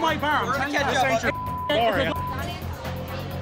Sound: beep; deep intense music

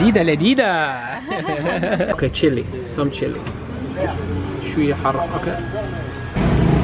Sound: giggles

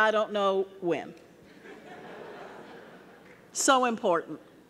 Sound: audience laughing

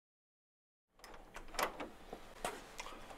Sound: door opens

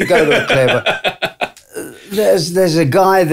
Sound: laughter

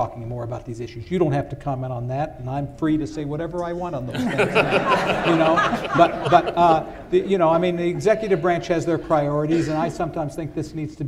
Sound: laughter

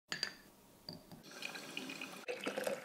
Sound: glass tinkling; coffee pouring; coffee dripping

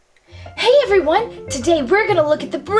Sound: voiceover

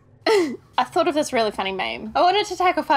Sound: laughs

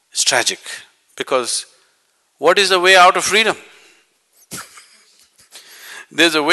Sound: laughs

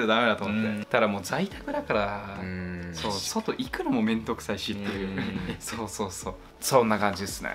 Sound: laughs

